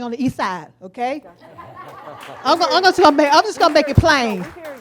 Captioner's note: audience laughs